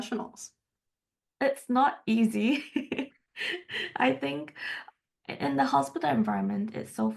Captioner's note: haha